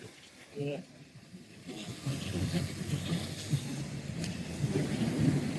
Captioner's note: wind